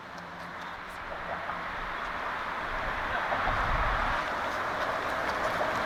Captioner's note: highway sounds in distance